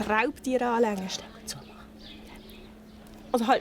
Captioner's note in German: Flüsternd